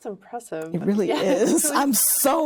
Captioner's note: laughing